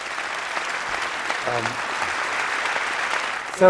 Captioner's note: applause